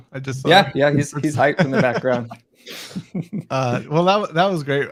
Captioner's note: all men laughing